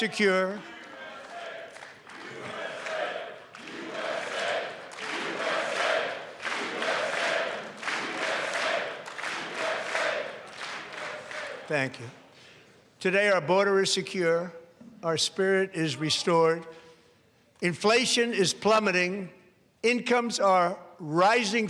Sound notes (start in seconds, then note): 11.4 chanting usa